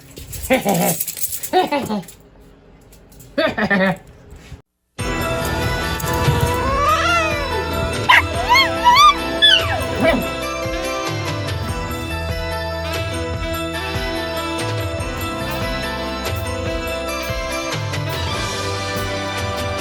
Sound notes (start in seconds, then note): 6.2 hisses, then growls; 7.7 barks and howls